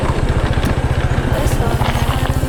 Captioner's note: wind blowing